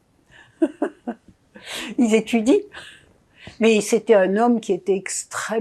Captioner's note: laughing